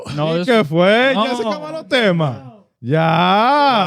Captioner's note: speaking Foreign Language